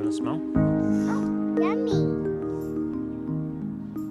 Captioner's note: sniffs